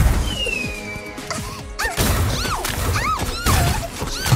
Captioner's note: shrieking; gasps